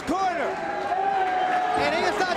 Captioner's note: spectators cheering